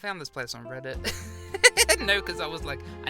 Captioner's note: laughs